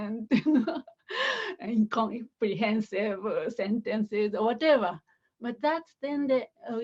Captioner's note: laughter